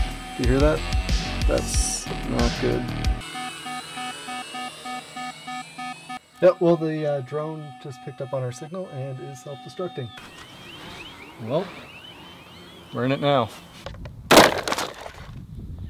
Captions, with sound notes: Do you hear that? Thats... Not good. *Drone Alarm Beeping* Yep, well the drone just picked up on our signal, and is self destructing. Well... We're in it now...